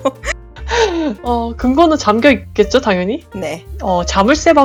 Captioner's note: laugh